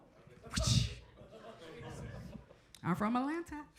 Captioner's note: imitates whip thrashing; crowd members chuckle; chuckles